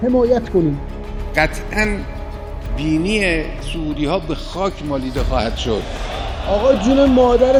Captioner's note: Voice of Khamenei